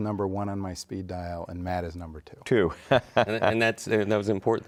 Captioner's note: laughs